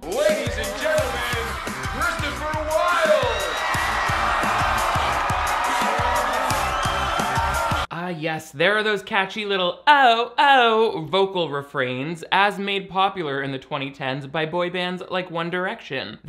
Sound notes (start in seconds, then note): 3.3 audience cheering; 3.3 upbeat music